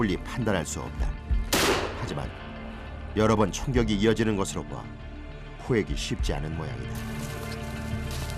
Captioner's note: bang!